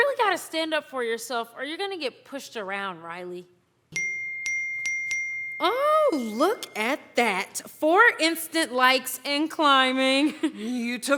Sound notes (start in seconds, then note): 3.9 ding, ding, ding, ding